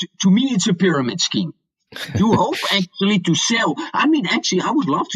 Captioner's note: laughs